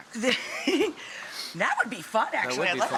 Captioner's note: laughing